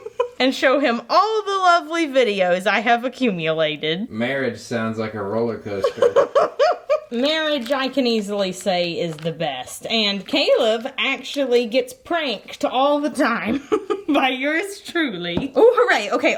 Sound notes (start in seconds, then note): 5.6 laughing